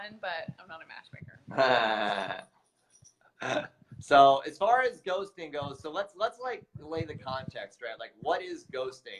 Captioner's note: laughs